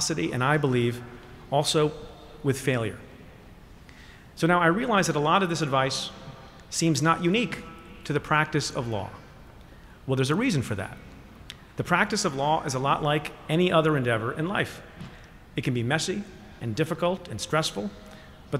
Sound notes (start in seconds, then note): none